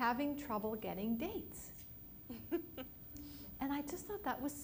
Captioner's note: laughter